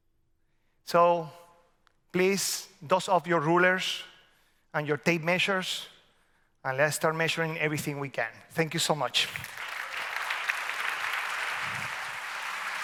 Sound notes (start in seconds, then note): 9.3 audience applauds